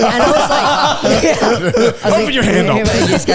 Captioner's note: all laughing